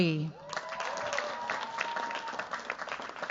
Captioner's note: cheers, applause